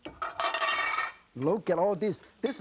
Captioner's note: clattering